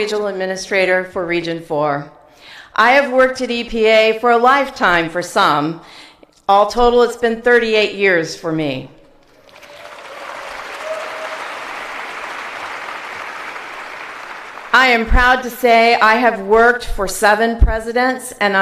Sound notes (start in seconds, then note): 9.3 applause